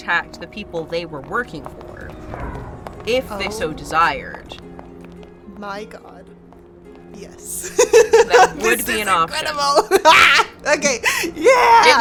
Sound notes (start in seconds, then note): 7.5 laughs